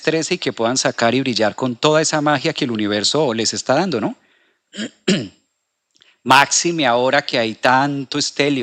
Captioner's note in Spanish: carraspeo